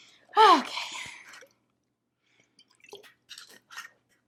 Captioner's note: sighs